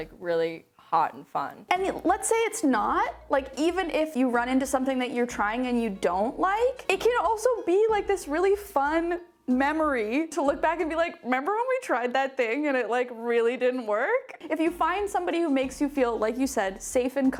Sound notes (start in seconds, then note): none